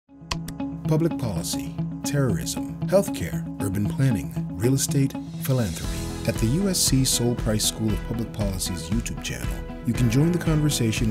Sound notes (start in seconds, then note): 0.3 mouse click